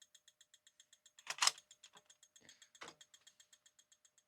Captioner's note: keyboard Clicking